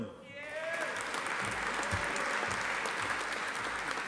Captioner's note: audience applauding